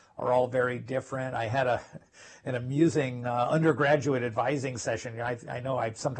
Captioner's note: laugh